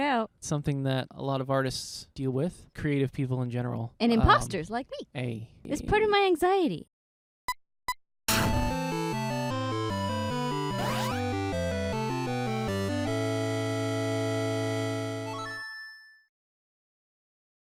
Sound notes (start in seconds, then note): 7.1 beeping; 8.3 instrumental music